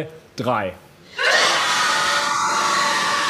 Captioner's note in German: Jubel, Lärm